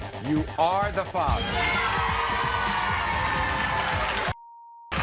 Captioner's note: crowd cheering